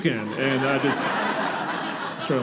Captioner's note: audience laughing